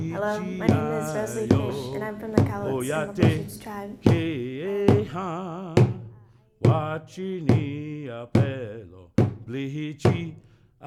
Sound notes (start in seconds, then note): 5.3 chanting continues